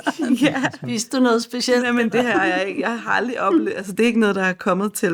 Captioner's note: laughs